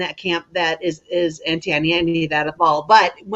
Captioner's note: murmurs